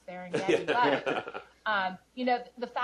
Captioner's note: chuckle